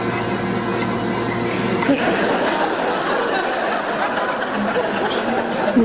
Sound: laughter

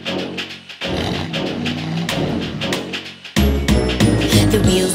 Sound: upbeat music; truck engine rumbles

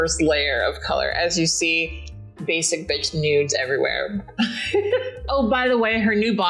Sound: laughs

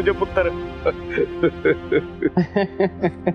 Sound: laughing

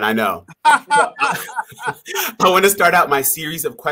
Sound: both laughing

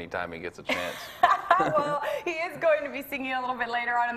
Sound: laughs

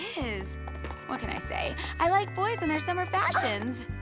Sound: panting

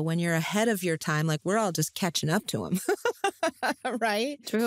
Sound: laughs

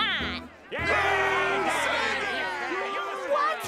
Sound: cheering

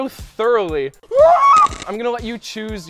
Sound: screams

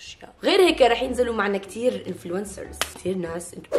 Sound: flicks paper

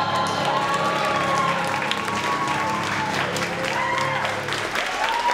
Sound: cheering and applauding

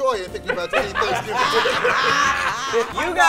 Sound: laughing

